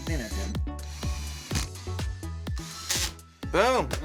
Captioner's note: drill whirring